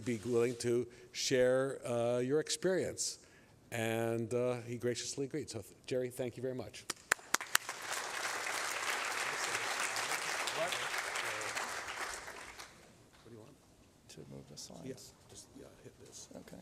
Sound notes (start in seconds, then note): 6.9 applause